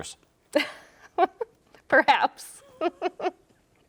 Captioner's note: laughs